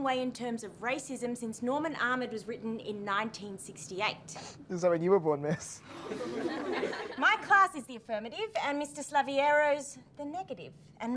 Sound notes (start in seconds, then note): 5.8 chuckles; 5.9 class laughing